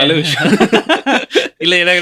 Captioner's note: laughter